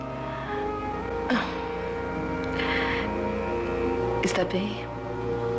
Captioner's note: sighs